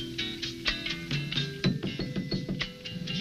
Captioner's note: door knocking